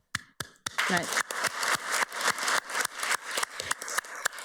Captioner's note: everybody applauds